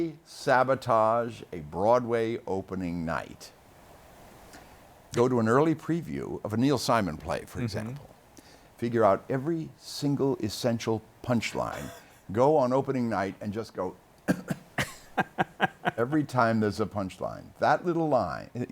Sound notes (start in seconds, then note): 14.2 cough; 14.3 laughs